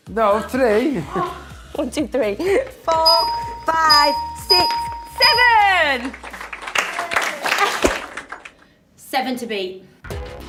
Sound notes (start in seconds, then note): 1.4 laughing; 5.2 clapping